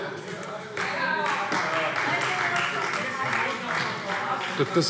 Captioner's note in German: Heiterkeit und Beifall Freie Demokraten - Zurufe AfD